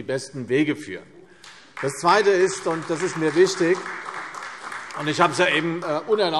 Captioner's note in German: Beifall CDU, vereinzelt BÜNDNIS 90/ DIE GRÜNEN und Freie Demokraten